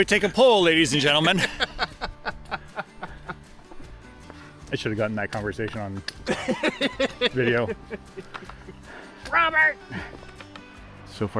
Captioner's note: laughter